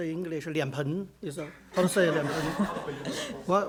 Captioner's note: speaks Mandarin; audience laughter